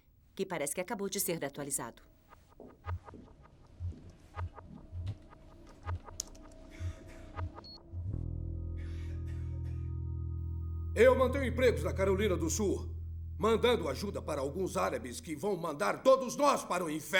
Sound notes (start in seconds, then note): 6.8 ominous music; 8.7 beeps